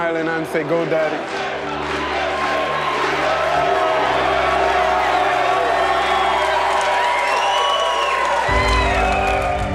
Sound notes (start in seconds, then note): 2.4 todos cantando "EUA"; 4.3 Gritos e aplausos